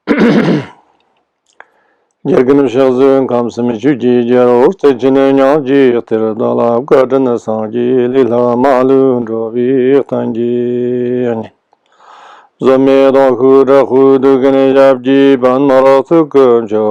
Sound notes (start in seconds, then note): 2.0 chanting prayer in Tibetan